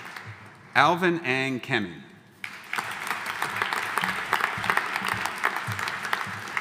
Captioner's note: audience applauding